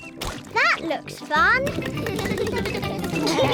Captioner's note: all giggle